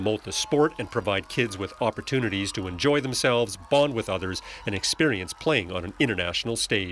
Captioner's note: cheers